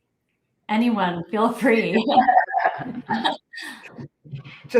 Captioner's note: laughter